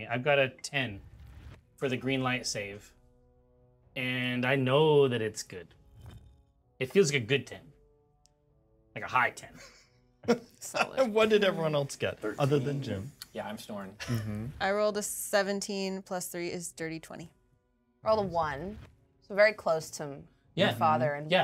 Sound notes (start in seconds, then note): 10.2 speaker chuckles